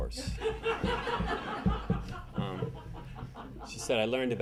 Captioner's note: audience laughing